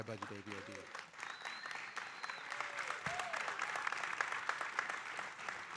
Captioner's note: audience cheering and applauding